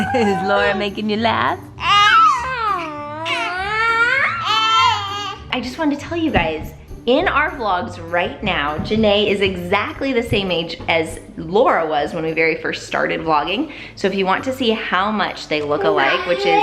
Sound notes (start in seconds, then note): 0.0 squealing